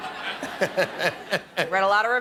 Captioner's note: laughter